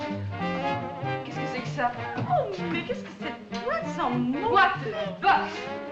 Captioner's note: French